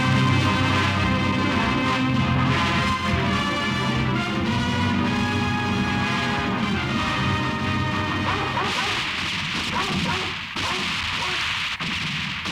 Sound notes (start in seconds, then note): 8.4 guns roaring; 9.6 dog barking